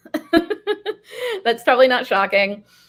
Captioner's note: giggles